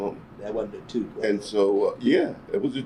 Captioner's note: laughs